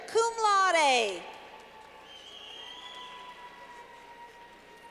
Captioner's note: clapping